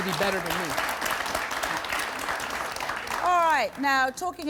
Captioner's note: clapping